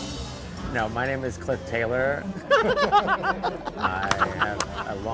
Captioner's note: laughing